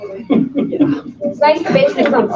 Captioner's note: laughing